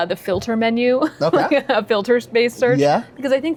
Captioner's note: laughing